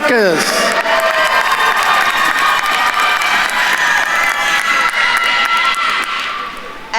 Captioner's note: attendees cheering and applauding